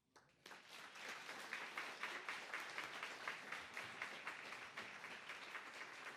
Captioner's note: applause